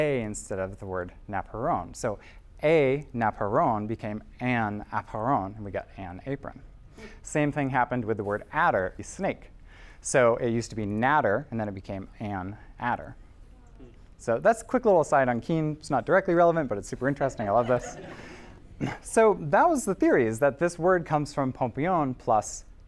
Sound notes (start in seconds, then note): 13.9 noises of amazement; 17.2 laughter